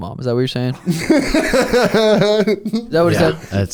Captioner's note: laughing